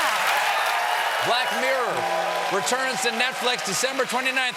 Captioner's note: cheers and applause